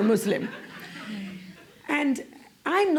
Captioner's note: laughter